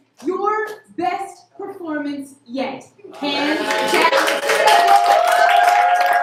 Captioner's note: applause